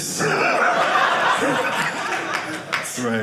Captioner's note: audience laughing